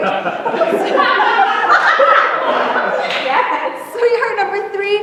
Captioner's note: laughter